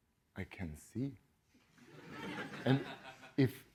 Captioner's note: laughter